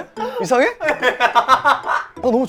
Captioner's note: just laughs